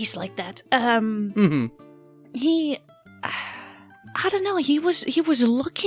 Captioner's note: chuckles